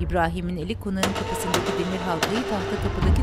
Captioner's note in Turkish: Kapı tıklama sesi